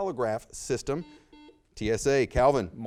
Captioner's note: buzzer beeps